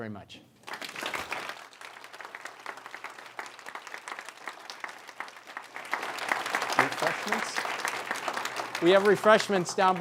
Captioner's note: applause